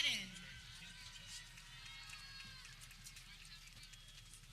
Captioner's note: people clapping